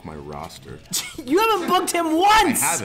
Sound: laugh

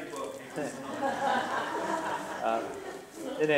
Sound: laughter

